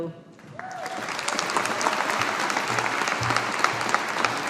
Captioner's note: audience applauding